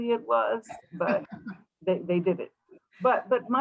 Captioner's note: laughter